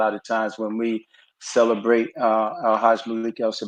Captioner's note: none